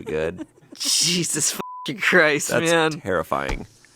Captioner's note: chuckles; beep